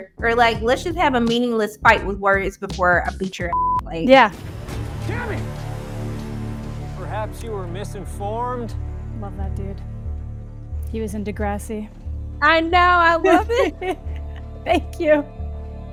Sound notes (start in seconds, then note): 3.5 beep; 13.2 laughs